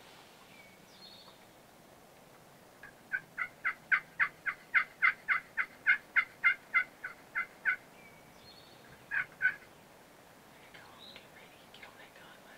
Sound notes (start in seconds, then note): 5.9 turkey yelping; 9.4 whispers